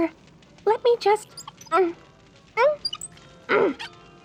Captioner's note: grunting, creaking wheels